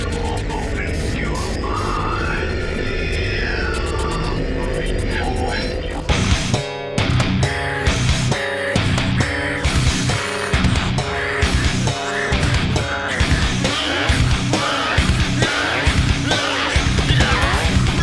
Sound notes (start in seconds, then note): 5.6 intense heavy metal; 13.0 singer groans